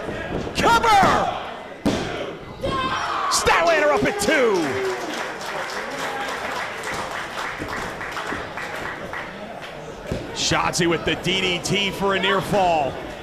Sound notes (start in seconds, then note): 7.7 applause